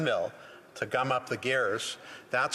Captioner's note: speaking alternate language